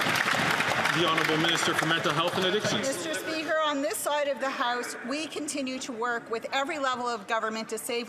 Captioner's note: some Applause